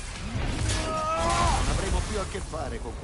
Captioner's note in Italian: gemito